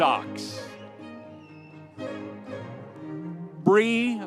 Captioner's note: audience applauding